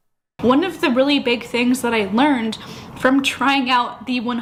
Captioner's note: sniff